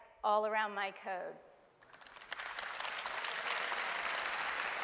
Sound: applause

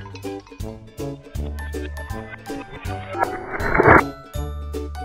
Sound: reverse whooshing

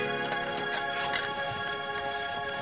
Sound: bag zipper unzips

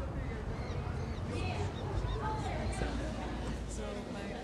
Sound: school din

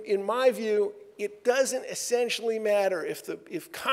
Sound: none

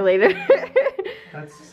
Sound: laughing

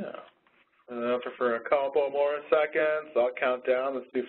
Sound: voiceover

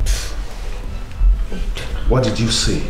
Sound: whispers

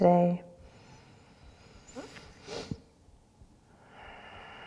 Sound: deep breath

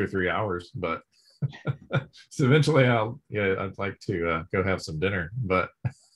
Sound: laughs

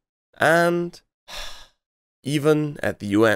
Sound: sigh

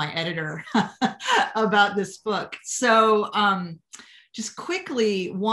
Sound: laughter

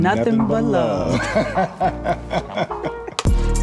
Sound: laughs

